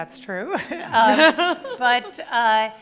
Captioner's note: laughing